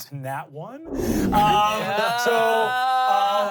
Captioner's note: everyone laughs